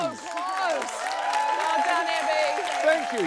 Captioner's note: cheering, applause